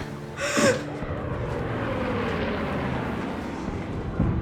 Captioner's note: plane whirs